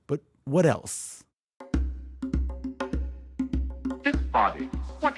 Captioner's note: soundbite of archived recording